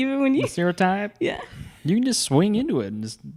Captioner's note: laughs